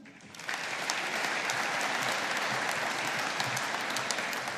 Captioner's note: audience applauding